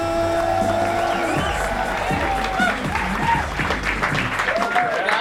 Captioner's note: crowd Cheering